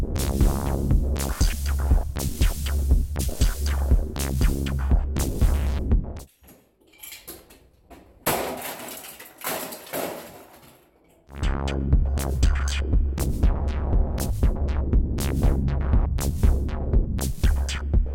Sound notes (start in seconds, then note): 8.0 whack & clattering; 11.3 techno